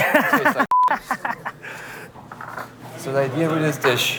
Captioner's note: laughs